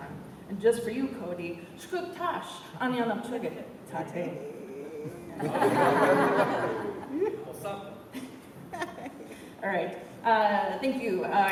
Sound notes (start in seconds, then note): 5.3 laughter; 8.6 laughter